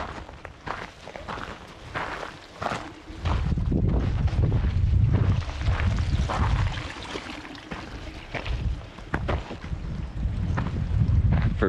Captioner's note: wind blowing